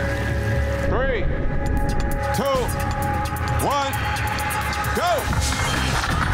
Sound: ominous music; digital beeping

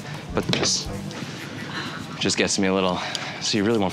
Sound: gasps

